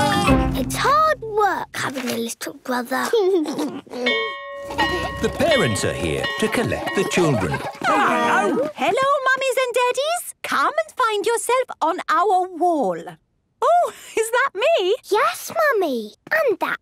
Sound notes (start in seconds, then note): 3.1 giggles; 4.0 bell ringing